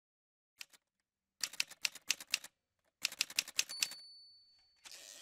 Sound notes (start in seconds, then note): 0.9 typewriter sounds